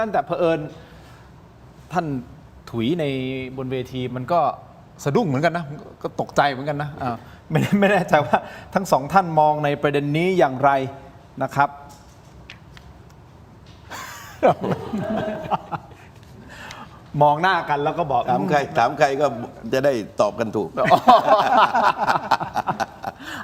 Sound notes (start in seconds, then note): 7.6 laughter; 13.9 laughter; 20.8 laughs